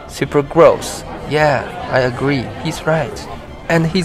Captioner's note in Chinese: 群众嘀咕